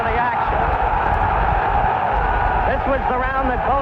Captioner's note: crowd cheers